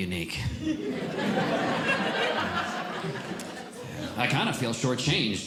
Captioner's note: audience Laughing